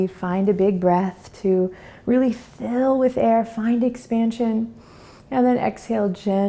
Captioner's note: inhales